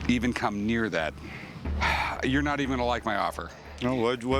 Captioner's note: sighs